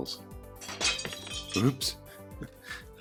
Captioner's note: crashing noise